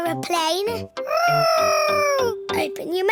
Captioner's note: imitating aeroplane